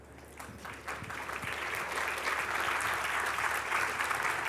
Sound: applause

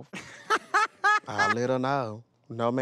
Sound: laughs

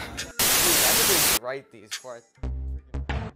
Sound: TV Static

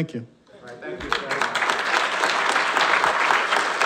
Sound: applause

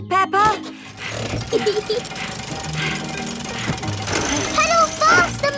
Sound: mummy pig panting; peppa laughing

